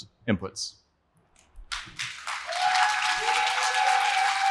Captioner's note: applause